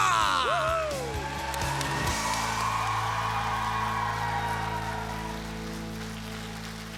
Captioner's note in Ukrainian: оплески